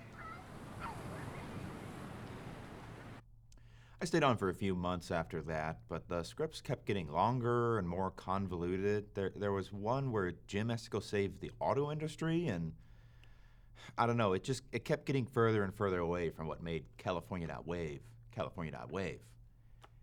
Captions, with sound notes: (children laughing) (waves crashing) - I stayed on for a few months after that. But the scripts kept getting longer and more convoluted. There, there was one where Jim has go save the auto industry, and I don't know, it just, it kept getting further and further away from what made "California.wav," "California.wav."